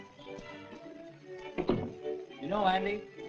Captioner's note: door closes